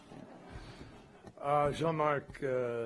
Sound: laughter

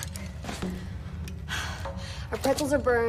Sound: sighs

